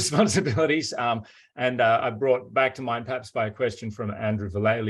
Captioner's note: laughs